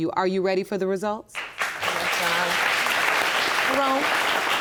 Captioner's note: applause